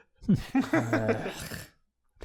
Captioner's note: sigh